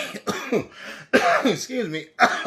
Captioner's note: coughs